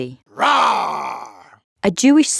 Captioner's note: Saul roaring